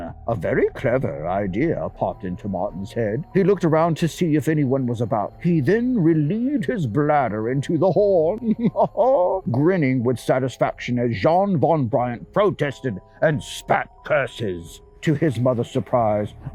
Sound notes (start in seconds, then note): 8.4 laughs